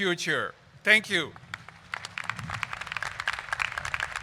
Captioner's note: crowd applauds